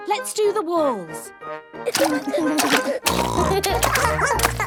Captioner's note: barking; giggling; snorting